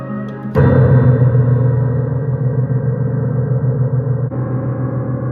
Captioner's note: loud key crash